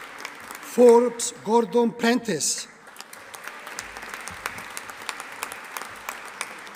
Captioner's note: audience applauding